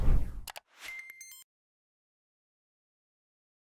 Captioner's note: typing